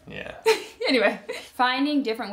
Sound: laughs

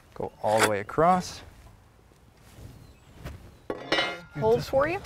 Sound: high pitched pinging of aluminum square on wood, no additional audio

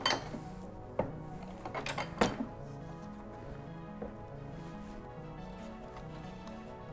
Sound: ink press clanks; rhythmic instrumental music

